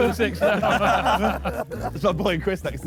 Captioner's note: Sidemen laugh